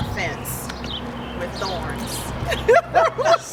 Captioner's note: laughter